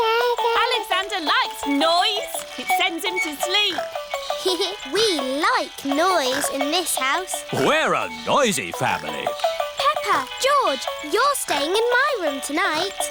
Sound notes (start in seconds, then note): 4.2 giggles